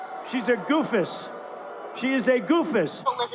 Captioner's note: booing